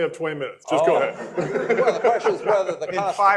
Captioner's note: laughter